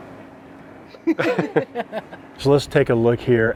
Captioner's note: laughing